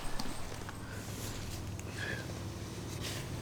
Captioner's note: heavy breathing